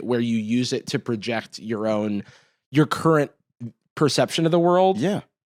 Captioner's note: none